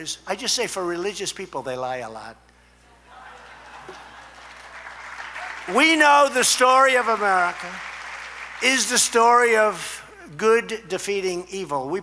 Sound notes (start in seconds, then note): 3.1 laughter and applause